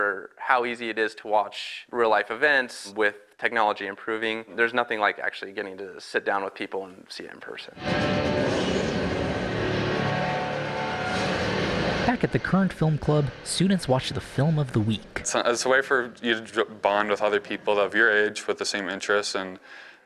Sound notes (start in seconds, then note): 7.7 movie playing